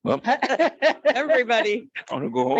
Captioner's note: light laughter